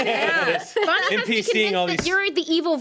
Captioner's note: everyone laughs; laugher drowns out woman